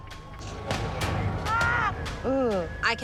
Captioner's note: screaming